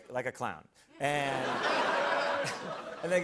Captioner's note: laughter